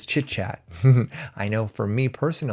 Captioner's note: chuckles